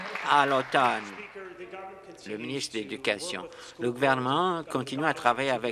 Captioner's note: applause